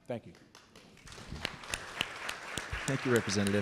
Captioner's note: audience clapping